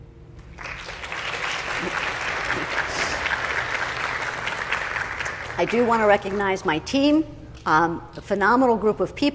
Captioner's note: applause